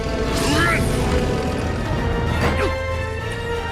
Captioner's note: grunt